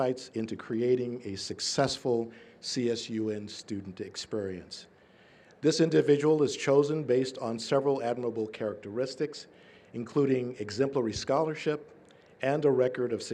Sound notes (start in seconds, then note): none